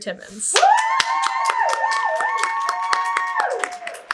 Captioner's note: audience cheers